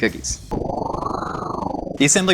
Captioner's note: wind whirling